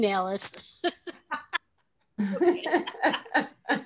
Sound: all laughing

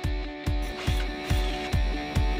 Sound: drilling

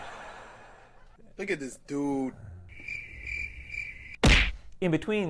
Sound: background laughter; crickets

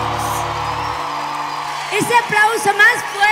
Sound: Aplausos

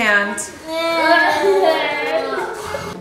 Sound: children groaning

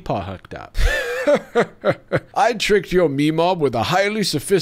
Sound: laughs

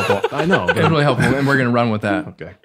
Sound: man laughing

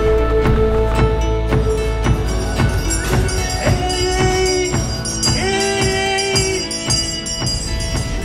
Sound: bell ringing

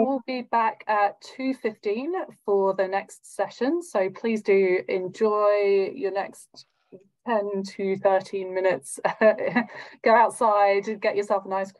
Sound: laughs

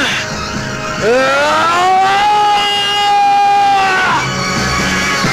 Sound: grunts

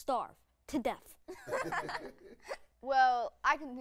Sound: laughs

